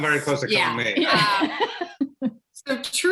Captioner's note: chuckles